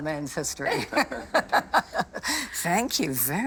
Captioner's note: laughing